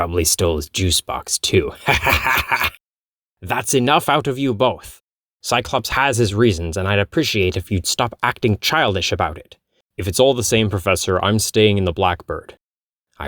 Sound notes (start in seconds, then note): 1.9 cackling